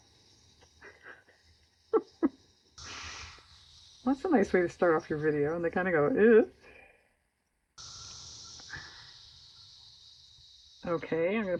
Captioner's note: laughs